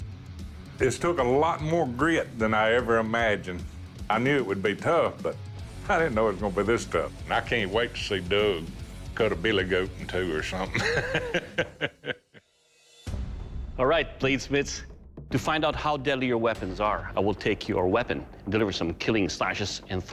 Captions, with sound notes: This took a lot more grit than I ever imagined. I knew it would be tough, but I didn't know it was going to be this tough. And I can't wait to see Doug cut a billy goat in two or something. [laughs] All right, bladesmiths, to find out how deadly your weapons are, I will take your weapon and deliver some killing slashes and thrusts